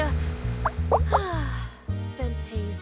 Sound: sigh

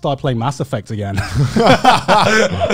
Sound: laughs

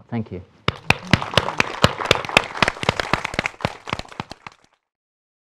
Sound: applause

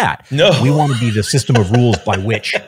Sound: laughing

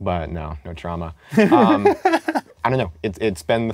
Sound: laughs

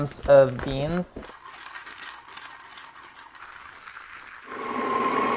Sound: coffee grinding

